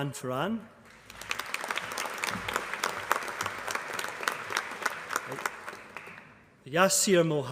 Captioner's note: applause